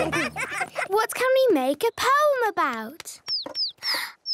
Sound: bird tweeting

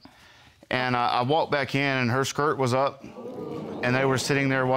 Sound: audience gasping

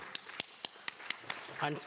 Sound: applause

